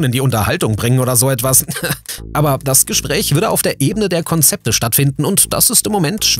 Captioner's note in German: lacht